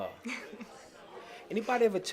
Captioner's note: laughs